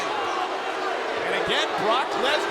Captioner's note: audience booing